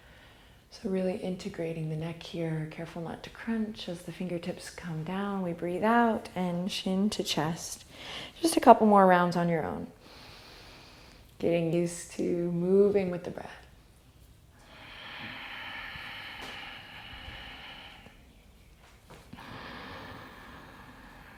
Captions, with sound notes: So, really integrating the neck here, careful not to crunch as the fingertips come down we breathe out. And chin to chest. Just a couple more rounds on your own (inhale). Getting used to moving with the breath. (deep breathing)